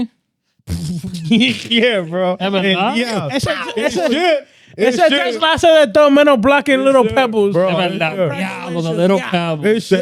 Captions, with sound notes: (Laughing) Yeah, bro. Ever not? Yeah. Shit. That's the last time I done been on blocking little pebbles. Bro, I ain't good. Yeah, I'm with a little pebble.